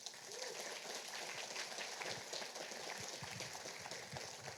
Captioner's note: audience applauding